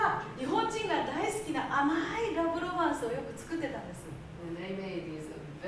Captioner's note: speaking Japanes